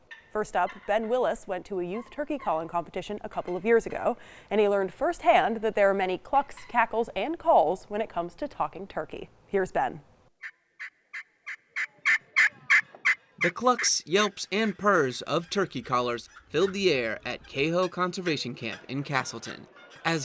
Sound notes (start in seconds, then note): 11.0 people chatter indistinctly; 11.0 pot call clucks